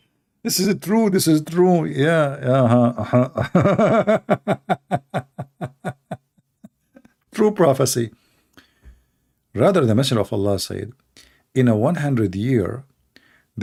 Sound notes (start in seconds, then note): 2.6 Ketawa